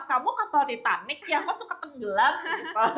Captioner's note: laughs